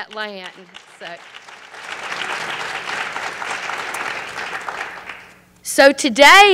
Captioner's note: applause